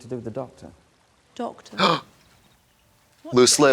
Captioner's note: Trixie gasps